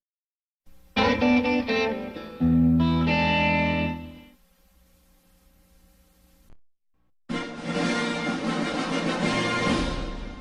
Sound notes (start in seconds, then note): 0.9 blues music plays; 4.4 silence; 7.4 rousing fanfare plays